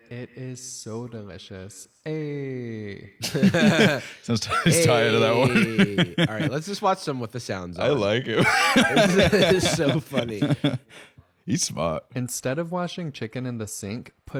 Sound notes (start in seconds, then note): 3.2 both chuckling